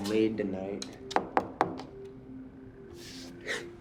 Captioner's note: knocks